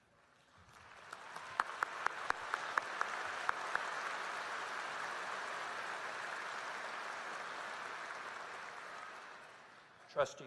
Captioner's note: applause